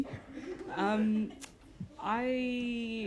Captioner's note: laughter